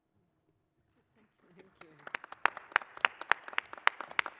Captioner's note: applause